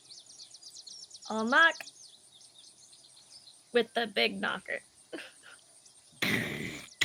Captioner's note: chuckles